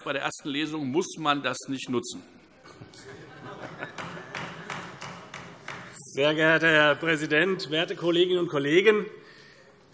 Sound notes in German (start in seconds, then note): 2.8 Heiterkeit - Beifall